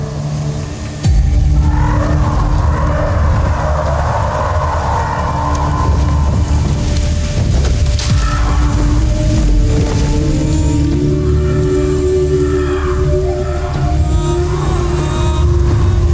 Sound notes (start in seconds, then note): 0.0 wind howling; 2.0 echoing screech; 6.4 fluttering; 7.8 echoing screech; 7.8 ethereal music playing